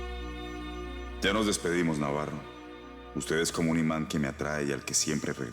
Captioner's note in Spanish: Voz del Dr. Montoya